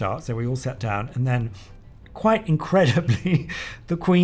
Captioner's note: laughs